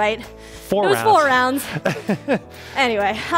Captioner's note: laughs